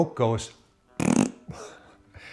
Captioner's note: blows raspberry